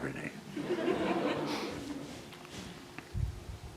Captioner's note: laughter